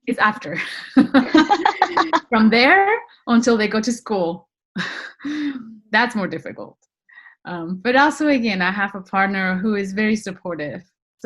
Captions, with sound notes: It's after. - (laughs) - From there until they go to school, that's more difficult. But also, again, I have a partner who is very supportive.